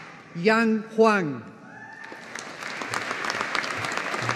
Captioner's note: audience applauding